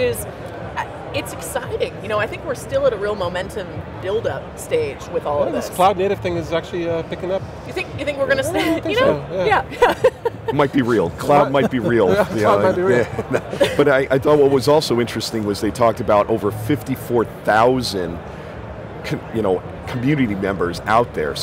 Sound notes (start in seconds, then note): 9.6 laughs